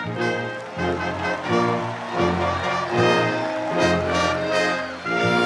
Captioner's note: audience cheers and applauds